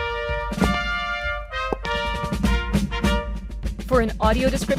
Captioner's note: marching band music plays; sound of clicking heels